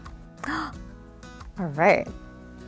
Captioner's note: serene music continues; gasping